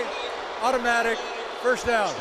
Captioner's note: booing